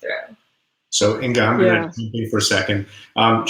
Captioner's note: voice muffled